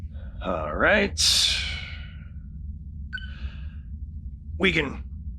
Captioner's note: tweeting sound